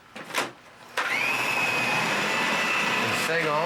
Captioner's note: food processing